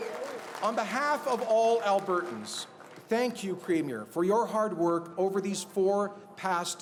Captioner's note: cheers and Applause